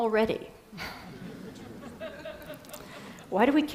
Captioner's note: Risadas